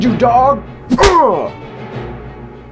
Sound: slap

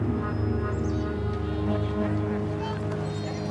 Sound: birds chirping

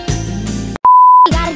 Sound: beep

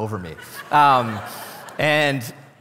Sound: congregation laughing

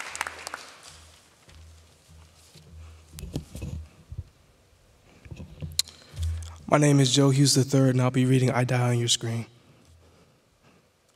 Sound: applause

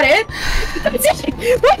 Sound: long sigh

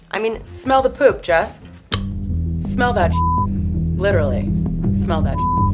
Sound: beep; beep

